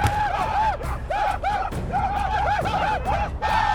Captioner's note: shawnee whooping